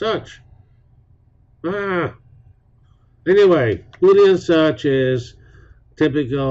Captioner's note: yell